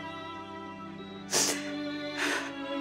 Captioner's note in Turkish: ağlıyor